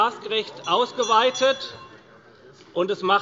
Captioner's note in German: Glockenzeichen des Präsidenten